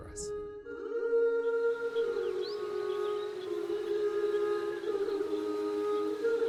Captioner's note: calming music; birds chirping